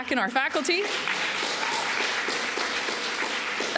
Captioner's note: applause